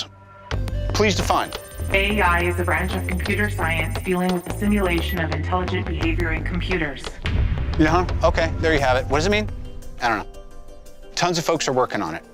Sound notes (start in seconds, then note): 1.5 automated AI voice speaking